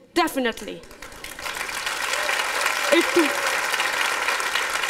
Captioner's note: applause